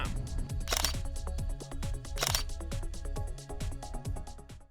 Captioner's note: camera clicking